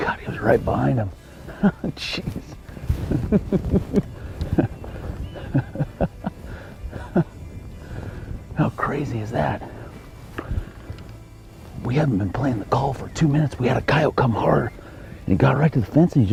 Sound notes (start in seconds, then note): 1.3 laughing